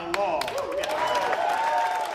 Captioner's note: cheering and applause